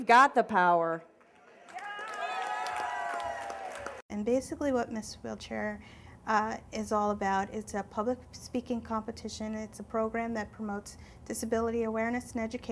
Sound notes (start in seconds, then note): 1.3 cheering